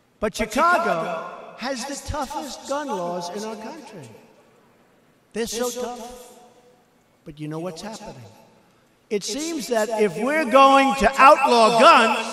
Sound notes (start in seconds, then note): none